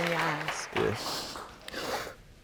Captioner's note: sniffling